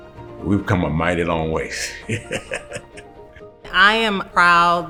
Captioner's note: laughs